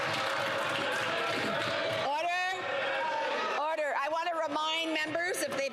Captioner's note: applause